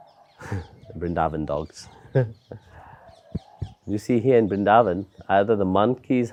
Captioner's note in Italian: dei cani abbaiano in strada